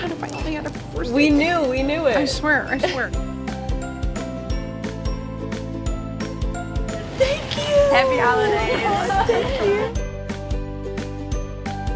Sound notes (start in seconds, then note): 3.6 pop music; 8.1 laughter